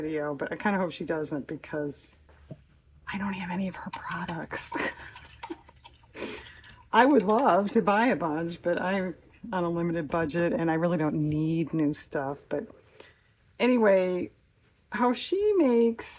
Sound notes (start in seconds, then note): 2.8 whispers; 6.3 laughs